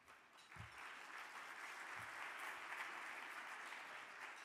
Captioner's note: audience clapping